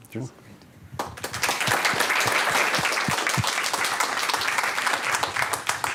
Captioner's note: applause